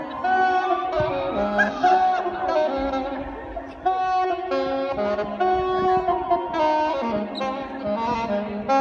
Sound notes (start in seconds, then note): 1.4 laughs; 4.4 saxophone music